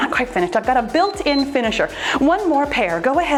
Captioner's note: timer beeps